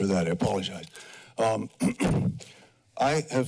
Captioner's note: clears throat